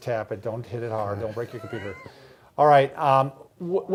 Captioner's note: chuckling